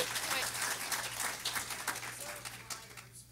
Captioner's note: everyone applauding